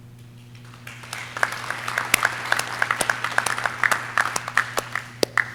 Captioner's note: audience cheering